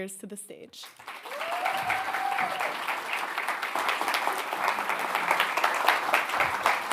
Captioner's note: audience cheering and applauding